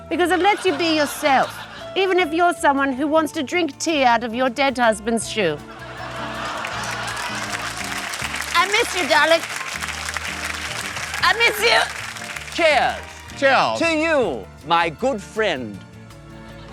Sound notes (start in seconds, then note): 5.8 groaning, laughter and applause; 9.7 applause